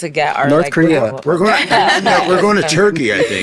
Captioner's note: all laughing